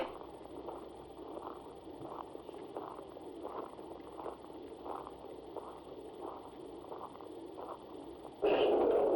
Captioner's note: footsteps